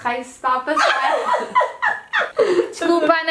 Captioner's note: laughs